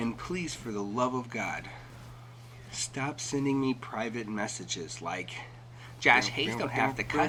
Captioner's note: deep breath